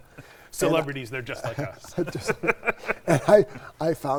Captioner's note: laughs